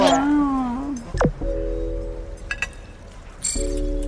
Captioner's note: laughs